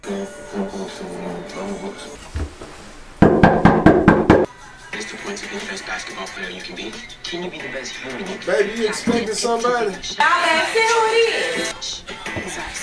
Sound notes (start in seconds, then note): 3.2 knocking at door